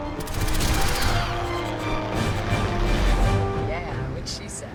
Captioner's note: creatures screeching; dramatic music; turret firing